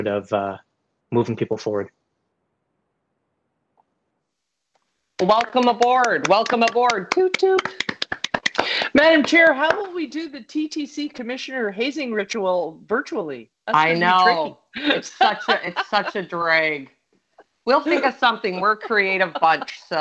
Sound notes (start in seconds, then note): 7.1 claps